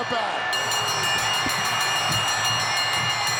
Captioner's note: bell ringing